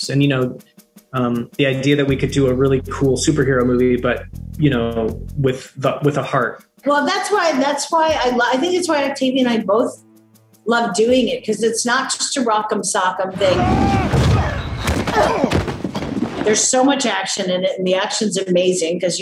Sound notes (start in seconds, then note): 13.4 people grunting